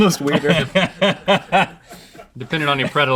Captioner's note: laughs